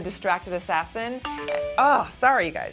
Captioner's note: message alert